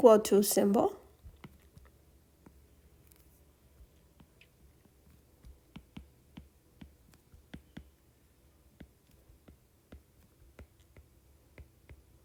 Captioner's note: writing Sounds